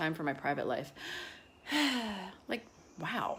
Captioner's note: sighs